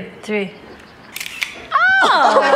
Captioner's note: camera clicks; all laughing